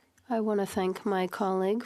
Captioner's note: speaking in French